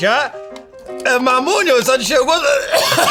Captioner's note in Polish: odgłosy kasłania